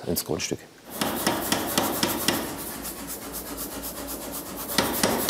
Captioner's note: regular knocking, in between panting rattling